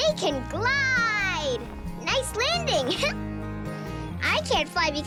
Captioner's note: giggle